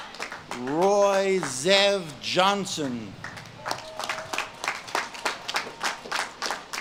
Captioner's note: audience claps and cheers